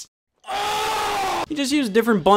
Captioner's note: man with hat grunts